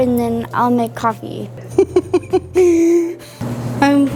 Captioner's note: laughing